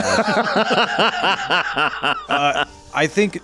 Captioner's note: laughs